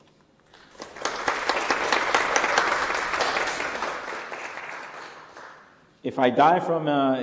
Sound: applause

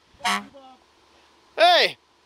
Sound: horn honks

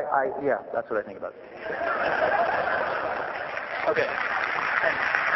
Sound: applause

